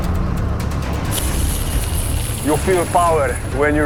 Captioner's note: tank engine whirring